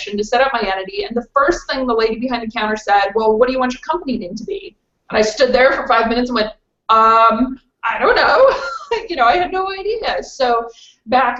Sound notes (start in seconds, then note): 7.9 laughs